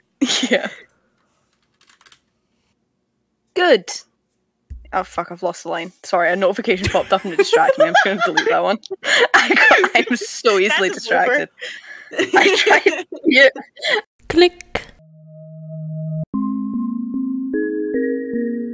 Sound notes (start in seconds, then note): 7.0 laughing; 14.1 click